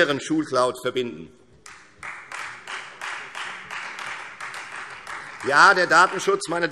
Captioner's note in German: Beifall Freie Demokraten